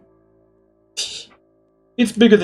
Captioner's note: laughs softly